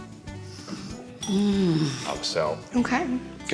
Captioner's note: sighing